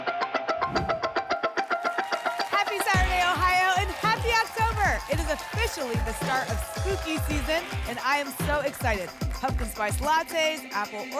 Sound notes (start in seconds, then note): 0.6 whoosh